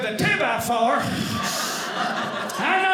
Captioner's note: audience laughing